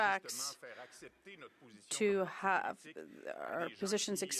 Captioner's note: speaking French